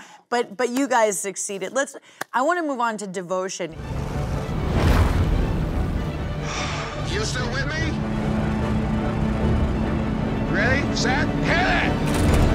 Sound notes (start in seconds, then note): 6.4 sighing; 12.3 triumphant music